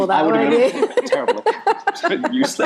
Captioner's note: group laughs